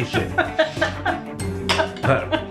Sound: laffin

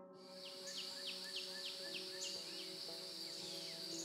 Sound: birds chirping

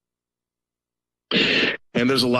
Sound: Static

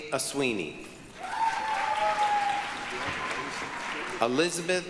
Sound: applause, cheering

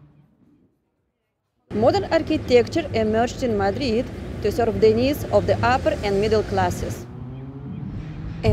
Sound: street Noise

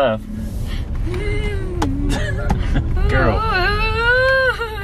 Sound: excited vocalizing

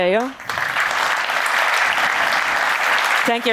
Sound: applause

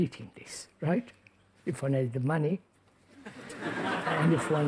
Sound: laughter

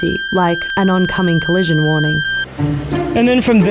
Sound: high pitched beeping

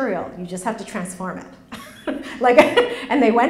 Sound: laughs

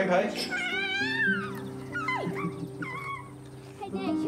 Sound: squeals gleefully

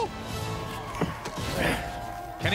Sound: grunts

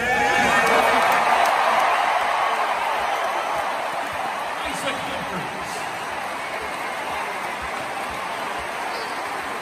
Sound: applause

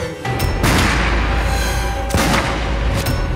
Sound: gunshots

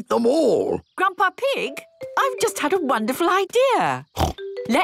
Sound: snort

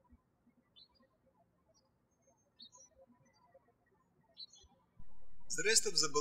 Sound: birds chirping

